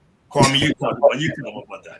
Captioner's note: laughter